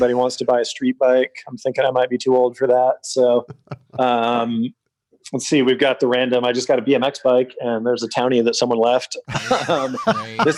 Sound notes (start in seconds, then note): 3.4 laughs; 9.2 laughter